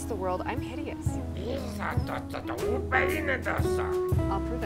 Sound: alien Language Sounds

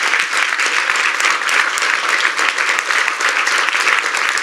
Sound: applause

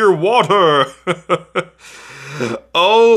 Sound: laughing

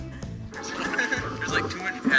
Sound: laughs

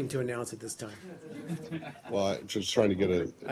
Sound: laughter

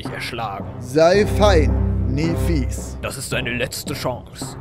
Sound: speaks in palindrome

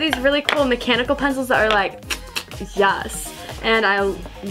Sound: clicks tongue

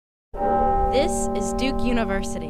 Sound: bell chimes

